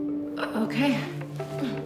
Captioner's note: laughs